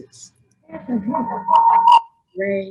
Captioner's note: distorted audio